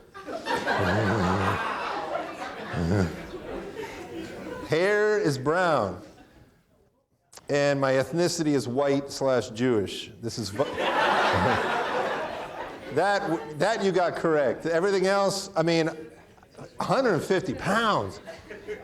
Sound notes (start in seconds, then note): 0.0 audience laughing; 0.0 chuckles; 10.5 audience laughing; 10.6 chuckles